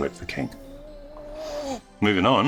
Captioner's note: whimpers